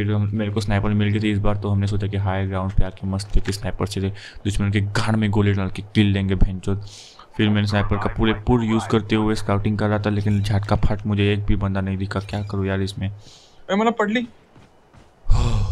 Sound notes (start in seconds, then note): 6.8 exhales; 13.2 exhales; 15.3 Exhales deeply